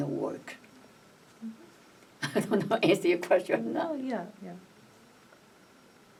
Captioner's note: laughs